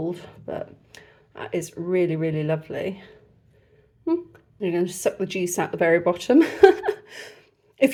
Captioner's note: laughing